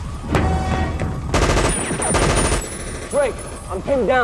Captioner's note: machine gun firing